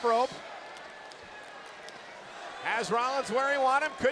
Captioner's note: audience chanting and clapping